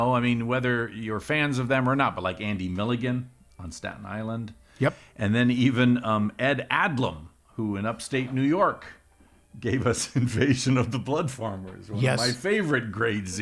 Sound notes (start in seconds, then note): 9.8 laughs